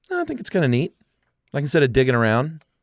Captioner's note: none